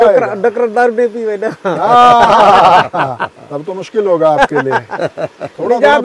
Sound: laughs

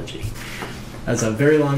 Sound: paper rustling

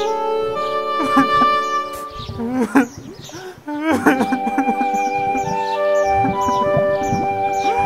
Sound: crying

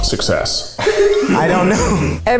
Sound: all laugh

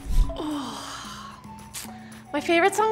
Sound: sighing

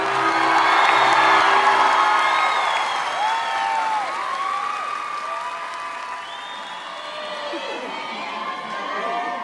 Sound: applause

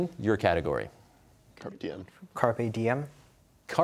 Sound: quietly

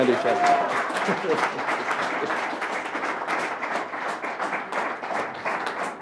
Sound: applause

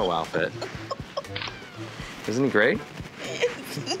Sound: kitten meows; giggling

